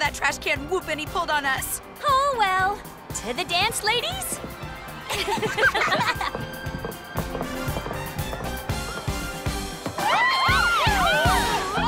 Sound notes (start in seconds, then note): 2.9 all laugh